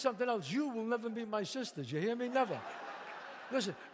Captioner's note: audience laughs